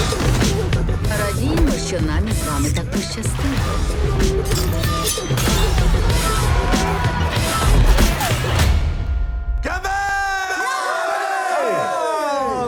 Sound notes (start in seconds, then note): 4.3 dramatic music continues; 6.0 screaming, grunting; 9.5 all in Japanese